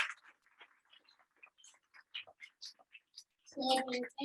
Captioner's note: audience applauding